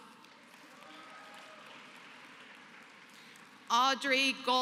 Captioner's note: applause